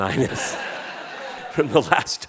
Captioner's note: audience laughing